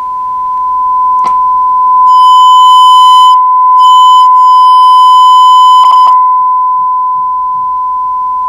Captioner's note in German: 1kHz-Ton - laut!